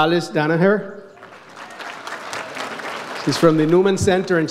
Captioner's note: audience applauds